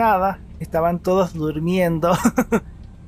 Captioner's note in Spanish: risas